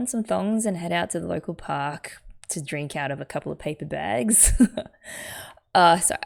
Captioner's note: laughs